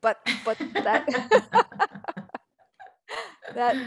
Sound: all laugh

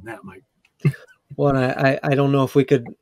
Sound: laughs

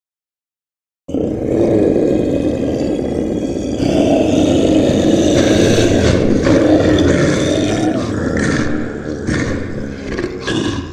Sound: sound of monster

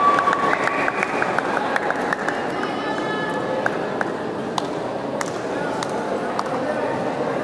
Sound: applause

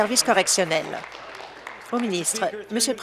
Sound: applause

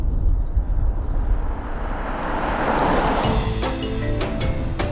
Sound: sound of car driving

